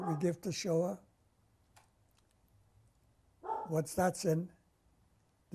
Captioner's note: pauses for 3 seconds